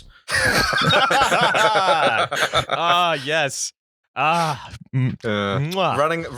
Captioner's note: laughter